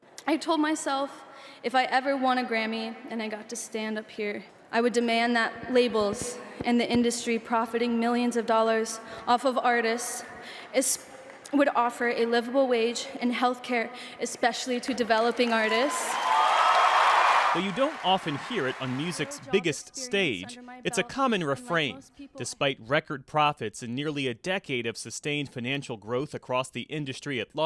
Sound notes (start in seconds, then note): 15.1 cheering